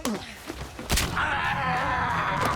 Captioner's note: bone cracks; screams